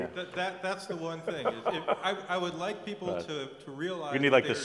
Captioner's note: laugh